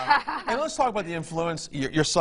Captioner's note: laughs